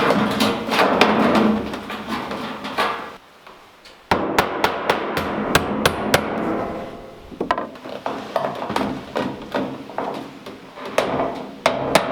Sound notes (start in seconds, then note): 4.0 hammer thumping